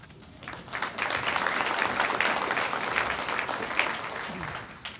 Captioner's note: audience applauds